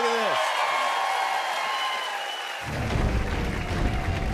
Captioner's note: cheers and applause